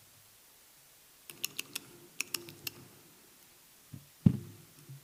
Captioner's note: pen clicking